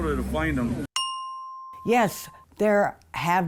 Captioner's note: bell dings